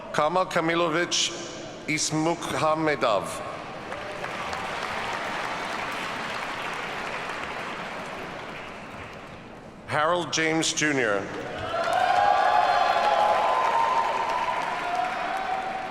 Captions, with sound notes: Kamol Kamilovich Isamukhamedov. (audience applauds) Harold James, Jr. (audience cheers and applauds)